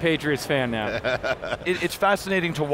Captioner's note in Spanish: Risas